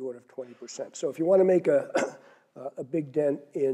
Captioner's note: cough